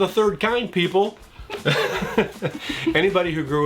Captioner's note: laughing